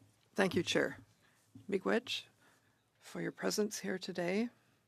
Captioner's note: speaking French